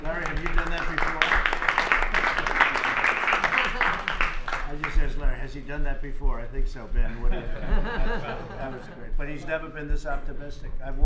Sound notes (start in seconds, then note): 0.0 applause; 7.1 laughter